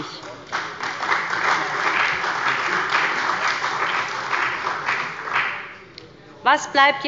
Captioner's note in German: Beifall bei dem BÜNDNIS 90/DIE GRÜNEN und der CDU